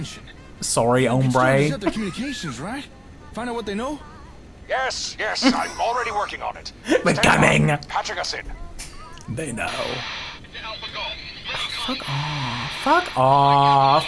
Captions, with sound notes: Sorry, hombre. (laughs) We're coming. They know. Oh, fuck off. Fuck off.